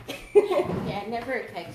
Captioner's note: laughs